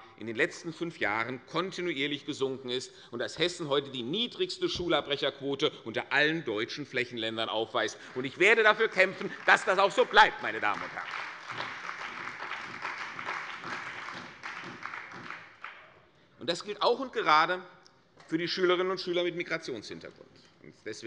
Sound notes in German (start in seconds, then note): 10.5 Beifall bei der CDU und dem BÜNDNIS 90/DIE GRÜNEN